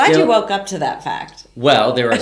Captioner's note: laughs